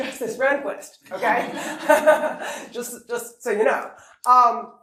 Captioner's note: laughter